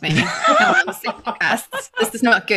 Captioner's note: laughter